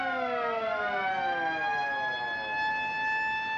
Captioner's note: sirens Continue